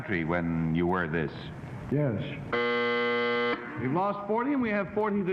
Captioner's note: buzzing